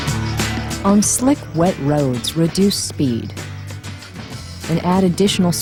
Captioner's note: voiceover